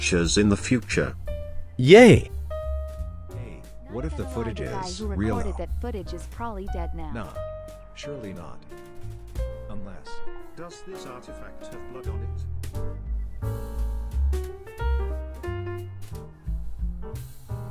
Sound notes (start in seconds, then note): 3.8 more unimportant talking